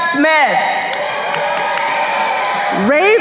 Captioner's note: crowd cheering